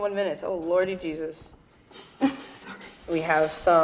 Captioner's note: laughing